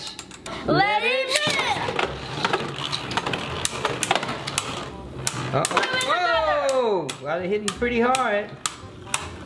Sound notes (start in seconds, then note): 2.4 metal and plastic clanking